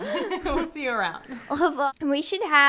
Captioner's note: speaking in foreign language